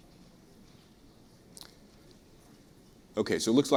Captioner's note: pause